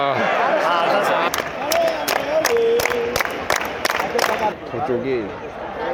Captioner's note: closing applause